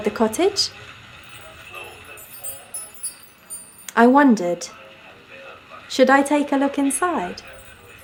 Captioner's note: wind chimes; 1940s MUSIC; wind chimes